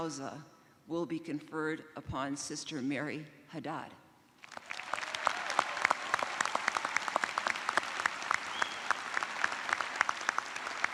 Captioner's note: cheers and applause